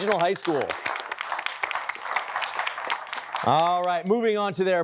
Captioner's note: applause